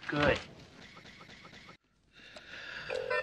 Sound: strange reversed air humping sounds

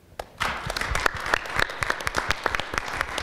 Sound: applause

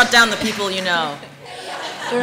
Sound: laughter

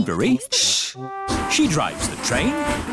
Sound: chattering

